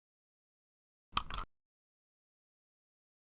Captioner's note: click